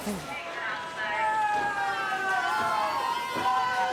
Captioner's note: booing